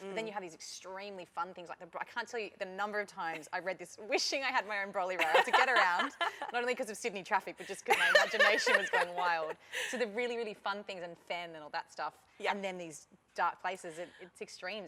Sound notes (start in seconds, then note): 7.7 laughter